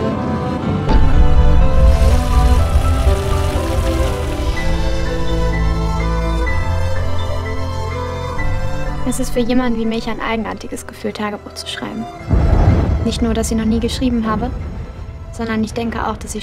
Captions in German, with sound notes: (plätschern) Es ist für jemanden wie mich ein eigenartiges Gefühl Tagebuch zu schreiben. Nicht nur, dass ich noch nie geschrieben habe. Sondern ich denke auch,